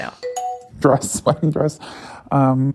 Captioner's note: bingbong